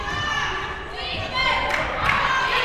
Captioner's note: claps